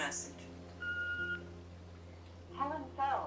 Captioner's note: machine beeping